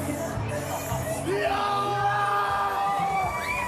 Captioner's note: loud roar